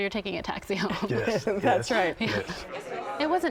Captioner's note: laughs